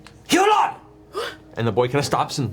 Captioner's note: gasps